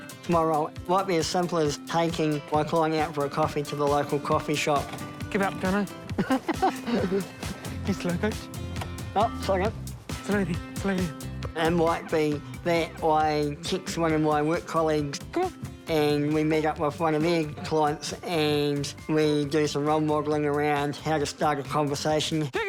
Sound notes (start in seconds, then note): 6.1 both chuckle